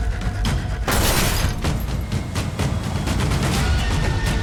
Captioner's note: Yuki shouting; blows thudding; glass shattering